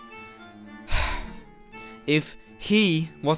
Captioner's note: sigh